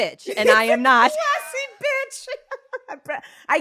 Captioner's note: laughs